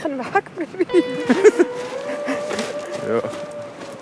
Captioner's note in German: Lachend